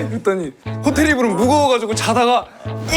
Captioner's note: haha